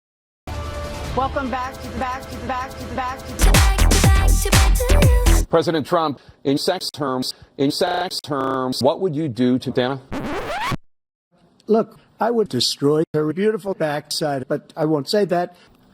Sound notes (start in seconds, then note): 10.0 record scratch